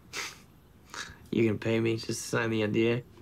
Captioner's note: scoffs